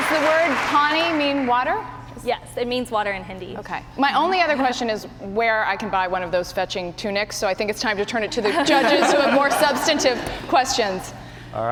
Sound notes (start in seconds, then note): 8.4 laughter